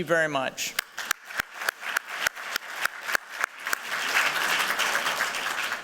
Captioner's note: applause